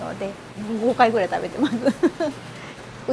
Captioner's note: laughs